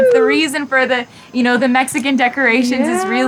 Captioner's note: whooping